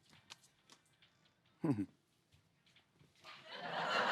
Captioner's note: chuckles lightly